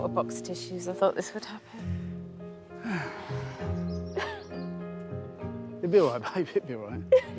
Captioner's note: crying